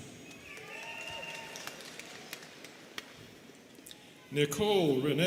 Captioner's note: students cheering and clapping